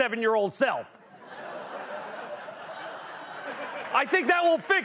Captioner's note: laughter and applause